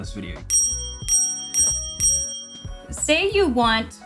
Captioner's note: bell dings